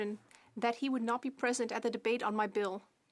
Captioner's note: speaking French